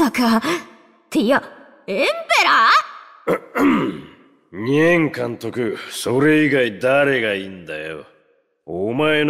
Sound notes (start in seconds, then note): 3.2 cough